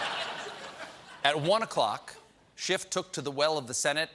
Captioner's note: laughter